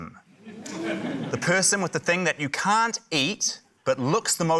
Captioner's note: audience exclaims